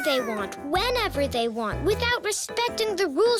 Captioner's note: squeaking